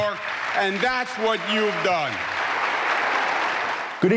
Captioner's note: applause